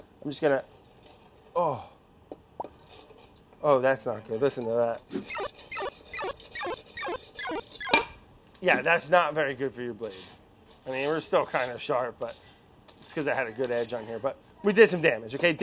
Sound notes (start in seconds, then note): 5.3 beeps